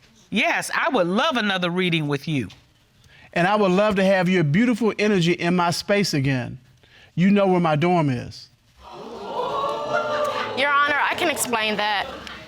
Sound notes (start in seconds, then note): 8.8 audience gasping